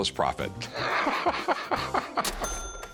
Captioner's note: laughter